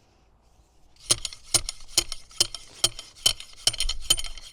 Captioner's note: pole taps